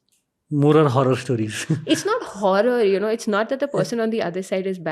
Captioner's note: chuckles